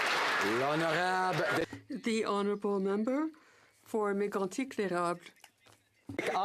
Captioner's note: some Applause